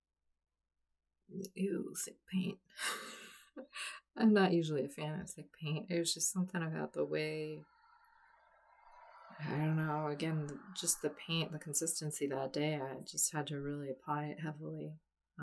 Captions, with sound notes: Ew, thick paint! [laughs] I'm not usually a fan of thick paint. It was just something about the way, I don't know, just the paint, the consistency that day, I just had to really apply it heavily.